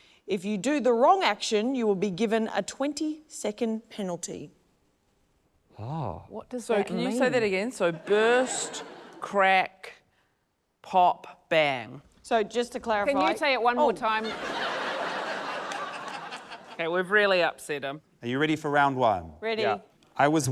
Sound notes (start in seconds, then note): 14.2 laughter